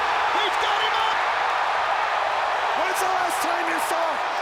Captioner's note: crowd roaring